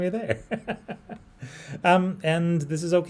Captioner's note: laughs